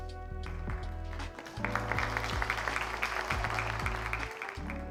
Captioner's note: audience clapping